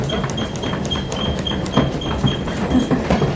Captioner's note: running hard lol